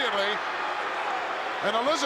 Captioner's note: crowd boos